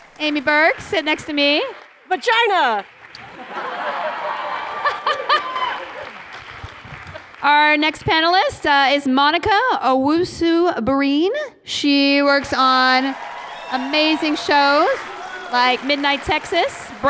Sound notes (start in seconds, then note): 0.0 applause; 3.2 laughter; 6.1 applause